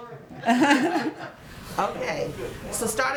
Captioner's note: laughter